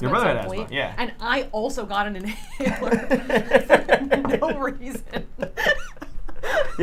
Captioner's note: laughs